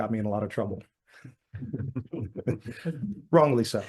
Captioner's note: all laugh